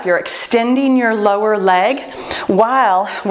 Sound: timer beeps

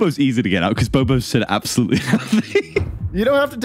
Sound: laughs

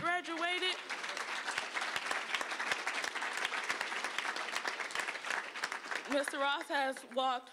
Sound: applause

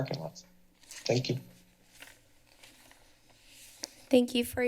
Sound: pause

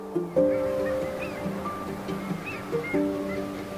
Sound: sounds of ocean and birds

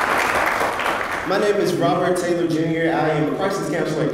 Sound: applause

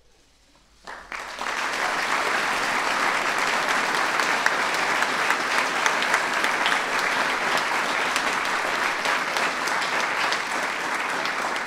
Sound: applause

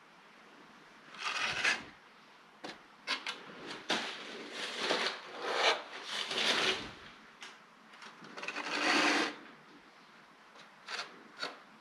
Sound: drywall texturing sounds

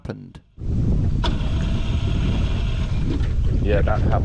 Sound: engine sputters

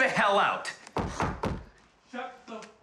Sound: banging

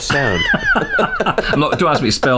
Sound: laughter

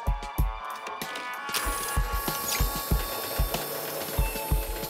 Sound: slide projector starts up

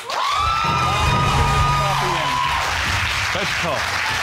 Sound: audience cheering

